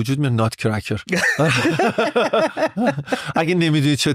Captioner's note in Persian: خنده